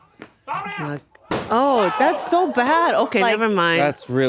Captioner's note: airbag popping